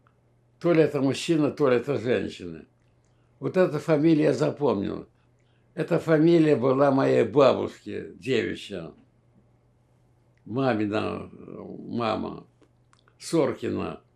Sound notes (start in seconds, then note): none